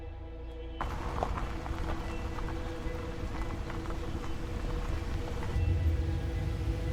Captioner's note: quiet, eerie music; engine humming